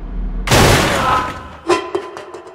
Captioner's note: big crash and scream